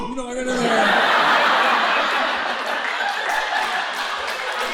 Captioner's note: audience laughing